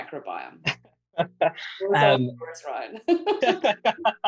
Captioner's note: laughter